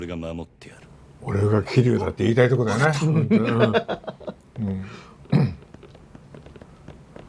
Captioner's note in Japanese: 笑い